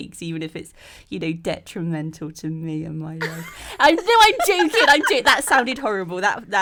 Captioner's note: all laugh